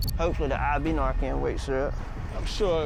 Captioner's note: none